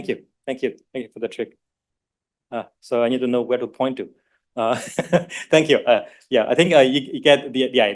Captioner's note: laughs